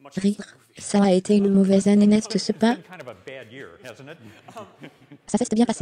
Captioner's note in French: rires